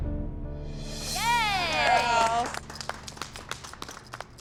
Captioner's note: cheers and clapping